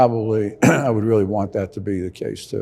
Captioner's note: clearing throat